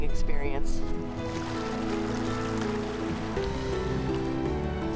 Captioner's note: water splashing